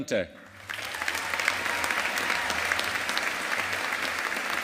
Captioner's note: audience applauding